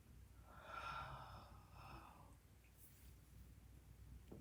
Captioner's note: moans softly